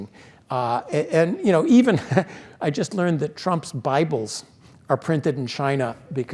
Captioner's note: laugh